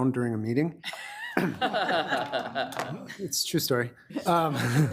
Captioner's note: laughter